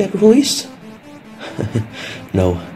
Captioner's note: chuckles